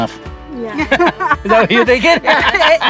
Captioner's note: group laughs